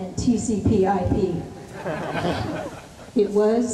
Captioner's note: laughter